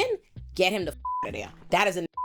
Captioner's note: beep